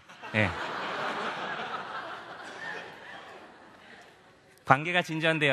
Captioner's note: laugh